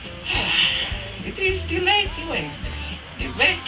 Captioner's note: sigh